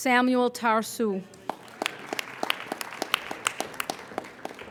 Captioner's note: applauding